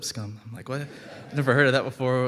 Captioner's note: audience laughing